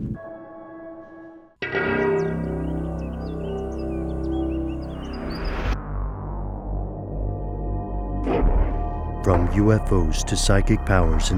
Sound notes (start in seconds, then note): 1.6 suspenseful music; 3.7 birds chirping; 9.4 voiceover